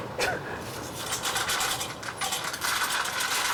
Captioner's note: rattling